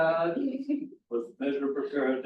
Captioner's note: laughs